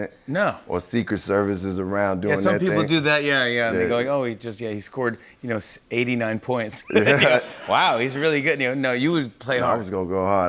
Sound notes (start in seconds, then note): 6.8 laughter